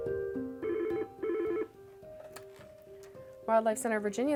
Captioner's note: phone rings